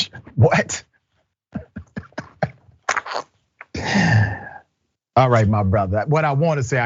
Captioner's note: laugh